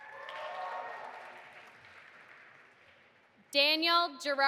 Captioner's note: audience applauding